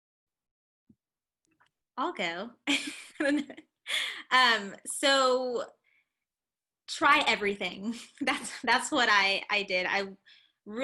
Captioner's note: laughter